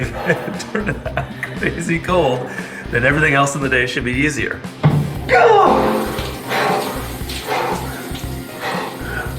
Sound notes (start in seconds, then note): 4.9 water trickling; 7.3 panting